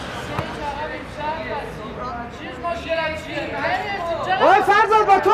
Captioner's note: arguing